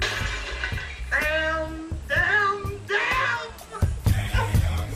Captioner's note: crying